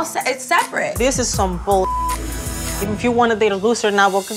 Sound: beep

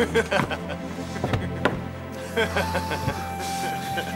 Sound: men laughing

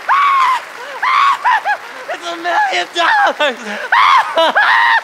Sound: screaming; screaming

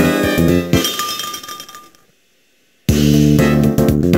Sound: tinkle tinkle

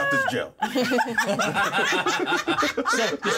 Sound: laughs

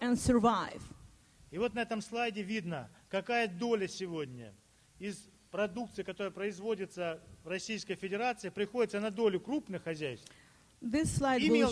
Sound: speaking Russian

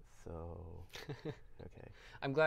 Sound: laughs

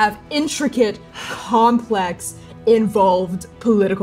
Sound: sighing

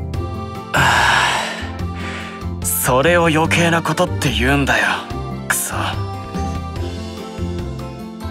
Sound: siiiigh

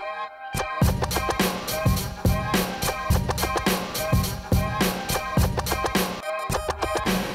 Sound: clap; ♬ hip-hop ♬

